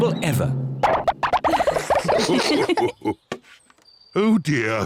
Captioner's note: all laugh